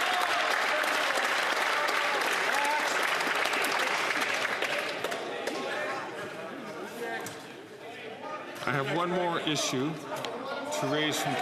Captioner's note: some Applause